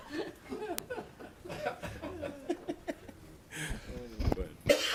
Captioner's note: laughing